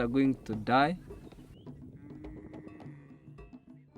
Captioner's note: mooing